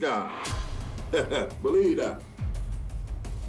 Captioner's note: chuckles